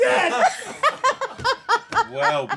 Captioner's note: laughter